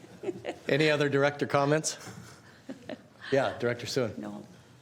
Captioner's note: laughter